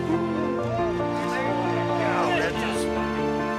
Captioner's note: men cheering